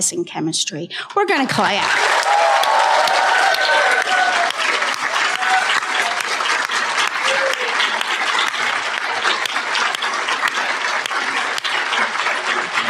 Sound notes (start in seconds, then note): 6.7 applause